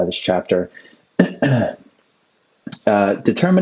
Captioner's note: clears throat